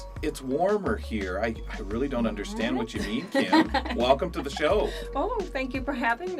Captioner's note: laughter